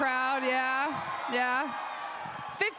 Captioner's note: crowd cheers